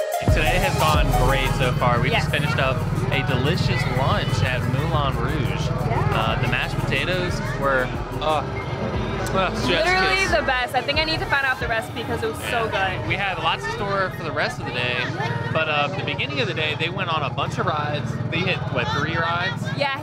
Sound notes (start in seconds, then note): 8.8 smacking a kiss